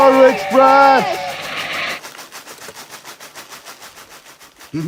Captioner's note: train whistle; train chuffing